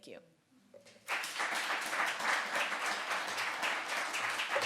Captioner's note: audience applauds